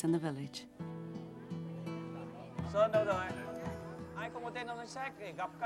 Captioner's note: speaking in foreign language